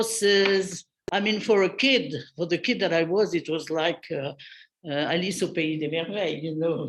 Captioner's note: non-english speech; non-english speech